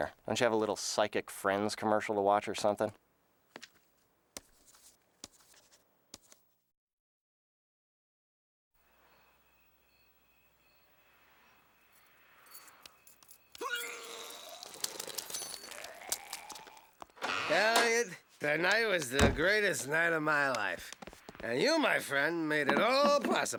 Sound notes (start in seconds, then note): 8.9 crickets chirping; 13.5 Duckman retching